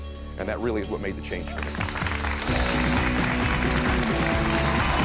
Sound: audience cheering and clapping; upbeat music

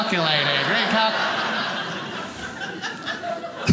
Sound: audience laughing

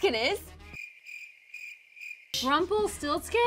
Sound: crickets chirping

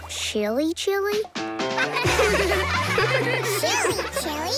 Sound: laughing

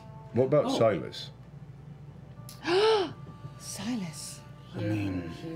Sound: gasps

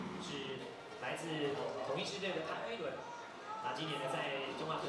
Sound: speaking in Chinese

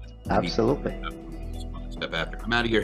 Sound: faintly speaking

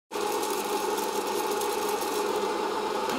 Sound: popcorn popping

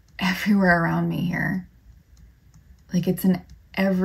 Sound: none

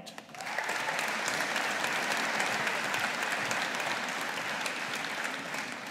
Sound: audience applauding

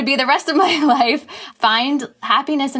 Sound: laughs

